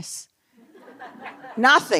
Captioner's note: laughter